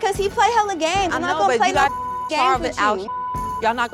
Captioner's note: beep